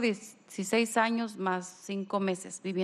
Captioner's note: speaking spanish